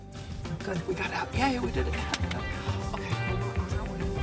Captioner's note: claps